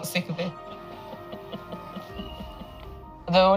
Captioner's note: giggling